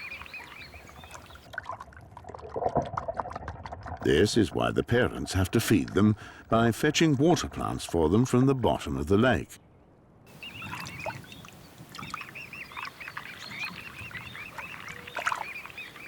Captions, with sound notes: This is why the parents have to feed them by fetching water plants for them from the bottom of the lake. [chick tweets]